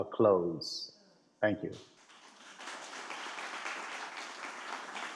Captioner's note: attendees clapping